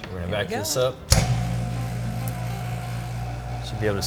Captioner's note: vacuum sealer whirring